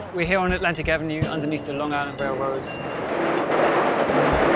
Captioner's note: traffic whooshes